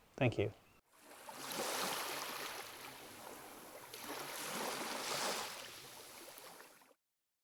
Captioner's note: waves crashing